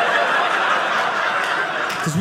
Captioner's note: audience laughing